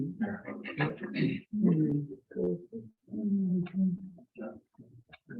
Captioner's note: members chattering